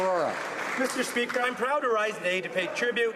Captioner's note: some Applause